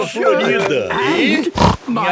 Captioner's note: snorts